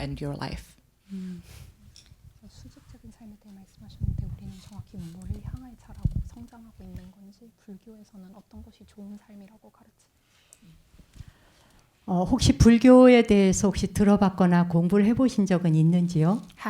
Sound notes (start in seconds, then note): 3.2 translator speaking in Korean; 12.7 speaking in Korean